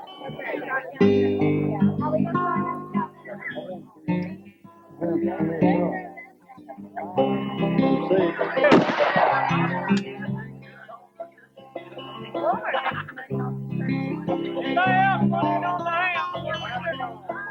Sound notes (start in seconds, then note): 3.4 gun shots